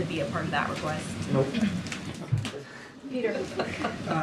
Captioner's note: laughter